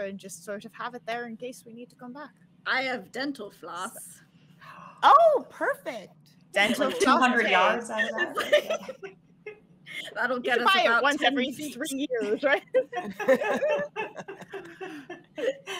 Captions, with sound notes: and just sort of have it there in case we need to come back." - "I have dental floss." - "Oh, perfect." - 200 yards? (all laughing) (group chattering) (all laughing)